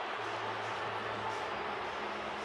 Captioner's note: booing